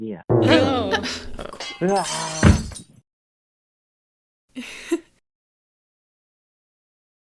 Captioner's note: glass shatters